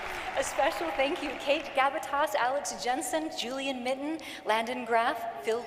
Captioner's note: cheering and applause